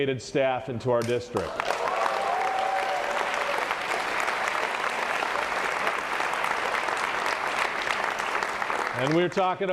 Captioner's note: applause